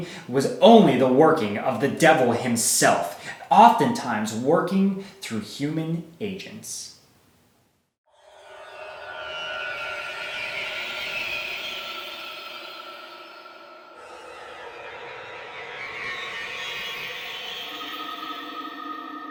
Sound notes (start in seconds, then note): 8.1 scary sound